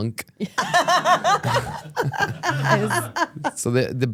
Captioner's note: laugh